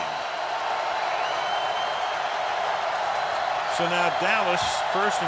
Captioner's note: cheering